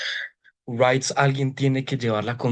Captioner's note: speaking foreign language